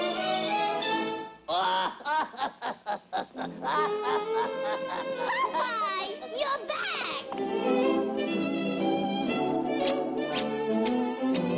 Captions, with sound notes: [laughs] Popeye! You're back!